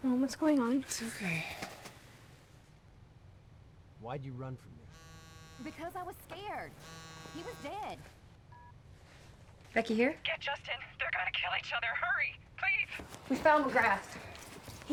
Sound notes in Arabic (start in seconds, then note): 4.9 يهتز الهاتف الخلوي; 6.7 يصدر الهاتف الخلوي صوتًا